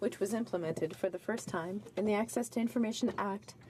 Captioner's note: speaking French